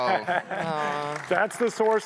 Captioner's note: audience applauding